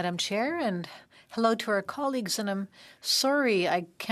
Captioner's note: speaking French